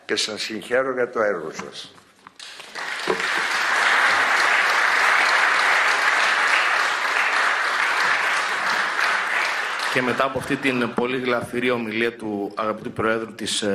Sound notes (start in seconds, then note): 6.3 applause